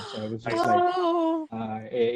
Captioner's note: gasps